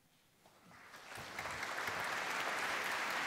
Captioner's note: applause